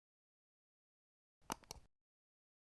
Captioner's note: click